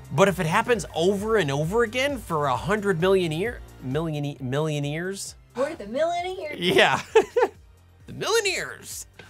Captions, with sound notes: But if it happens over and over again for 100 millineer... milla millineers? We're the millineers! Yeah. (Laughing) The millineers!